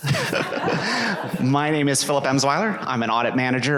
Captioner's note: laughter